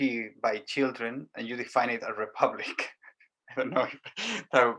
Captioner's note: giggles